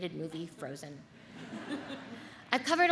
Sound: audience laughs

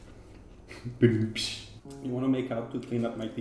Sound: imitates rim shot

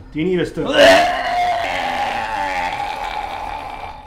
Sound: Frank vomiting

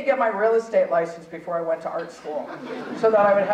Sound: audience chuckling

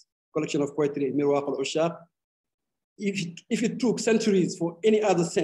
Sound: speaking arabic

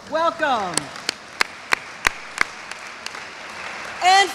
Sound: audience applauds

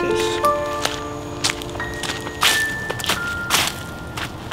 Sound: clogs rustling

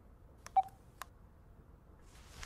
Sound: phone touch sound

